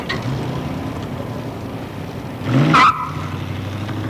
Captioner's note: engine throbs; tyres screech